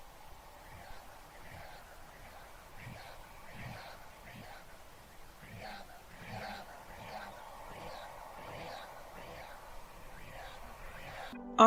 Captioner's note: ghostly whispers of "Rhiannon"